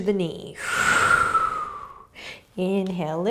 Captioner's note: exhaling